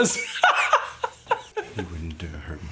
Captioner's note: Siegmund laughing